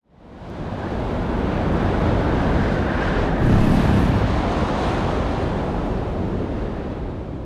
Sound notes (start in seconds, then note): 0.6 wind blowing